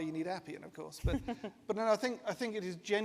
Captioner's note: chuckles